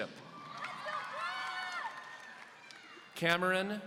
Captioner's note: audience cheering